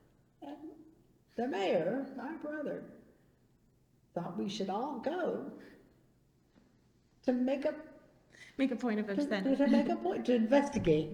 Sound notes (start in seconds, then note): 10.4 laughs